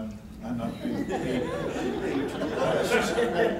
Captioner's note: laughter